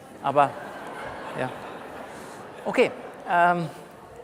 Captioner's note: laughter from the audience